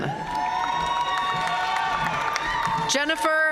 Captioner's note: audience cheering and applauding